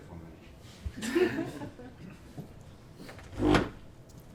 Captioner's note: laughter